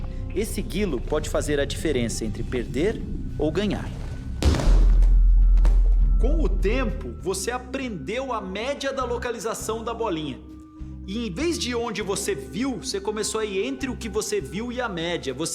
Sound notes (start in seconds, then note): 4.4 sounds of falling on the mat